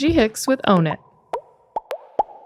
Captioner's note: air popping